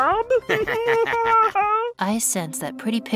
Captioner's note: nickel & goo laugh